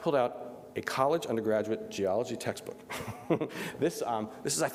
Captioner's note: laughs